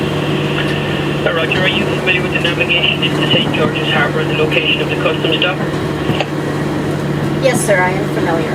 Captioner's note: radio